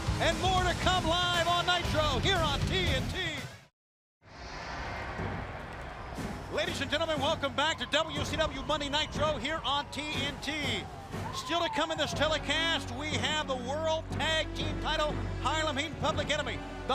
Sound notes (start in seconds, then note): 3.5 crowd cheering